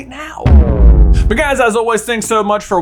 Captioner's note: words reverberate